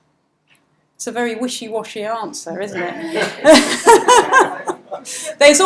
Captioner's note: laughs